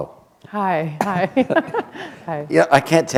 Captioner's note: chuckle